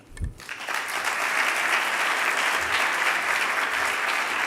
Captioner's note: audience applauding